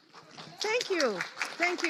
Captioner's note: audience applauds